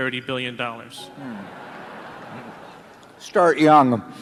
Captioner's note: laughter